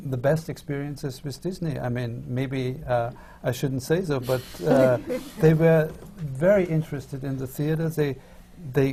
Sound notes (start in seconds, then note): 4.7 laughter from the panel